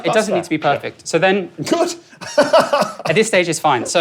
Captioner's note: chuckles